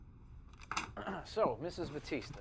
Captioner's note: Tommy clears his throat